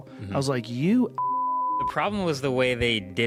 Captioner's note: beeps